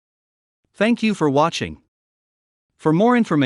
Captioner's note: voiceover